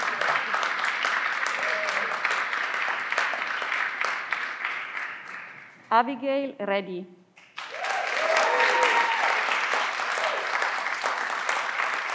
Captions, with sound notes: Abigail Radey. (everyone claps)